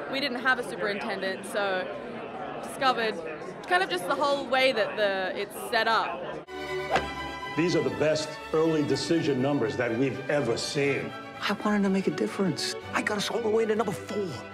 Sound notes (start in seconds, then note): 6.2 uplifting music; 6.8 golf club whacking